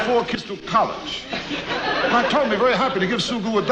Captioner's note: audience laughs